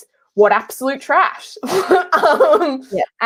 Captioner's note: laughing